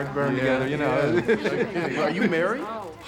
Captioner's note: laughs